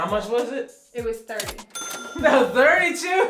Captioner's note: ka-ching